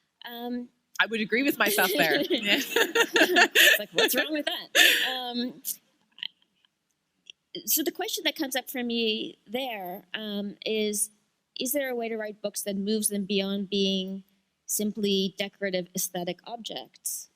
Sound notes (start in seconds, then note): 2.6 chuckle